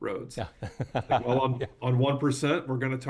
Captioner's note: laughs